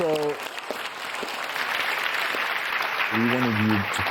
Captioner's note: audience clapping